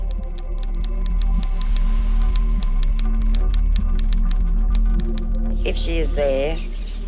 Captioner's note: keys tapping; suspenseful music